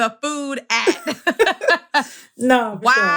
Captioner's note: laughter